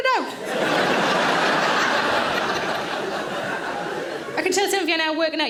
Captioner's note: audience laughing